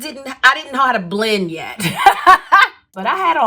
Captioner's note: laughs